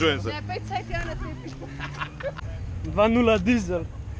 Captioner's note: all laught